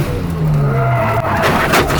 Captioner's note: engine revs; tires squealing